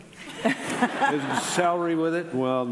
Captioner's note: laughing